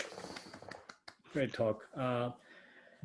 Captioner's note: clapping